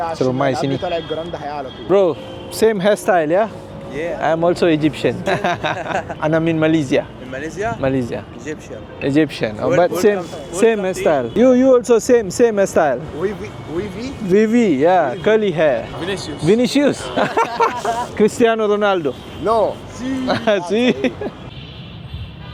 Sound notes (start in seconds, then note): 5.0 laugh; 16.8 laugh